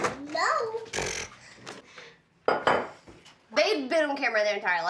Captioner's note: blowing lips together